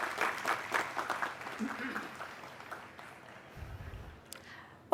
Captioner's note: applause